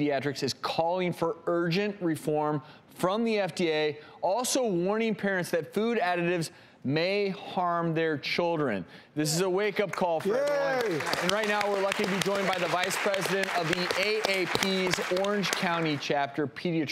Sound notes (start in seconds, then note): 9.9 audience clapping